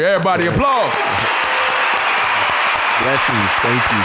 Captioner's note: audience applauding